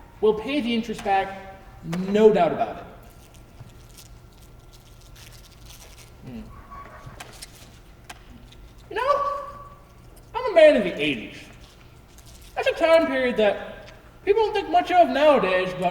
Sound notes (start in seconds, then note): 3.0 candy wrapper rustling